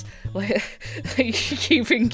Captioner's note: existential laughter